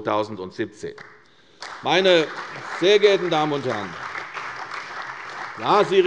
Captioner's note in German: Beifall bei der CDU und dem BÜNDNIS 90/DIE GRÜNEN